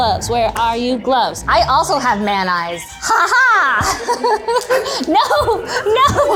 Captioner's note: laughing